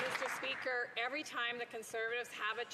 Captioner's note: some Applause